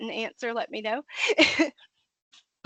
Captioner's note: laughing